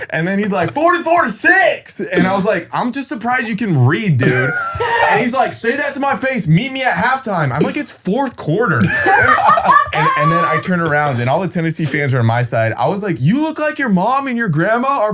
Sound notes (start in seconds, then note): 8.8 all laughing